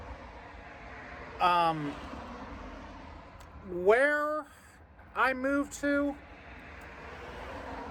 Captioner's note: stammers